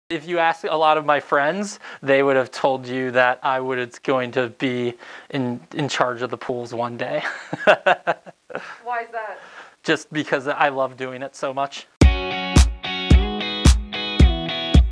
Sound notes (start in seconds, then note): 7.2 laughs; 12.0 upbeat music